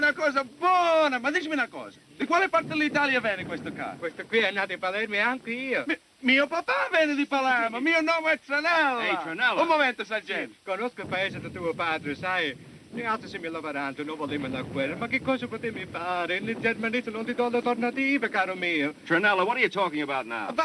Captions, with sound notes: Hey, Tranella. Un momento, Sergeant. [SPEAKING ITALIAN] Tranella, what are you talking about now?